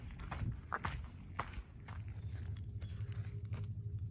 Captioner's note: sound: Cardinal singing